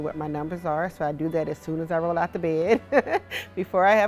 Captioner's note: laughs